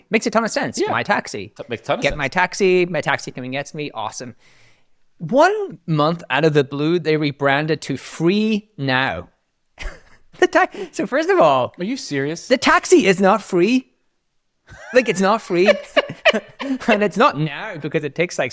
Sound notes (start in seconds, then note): 9.8 laughs; 14.7 both laugh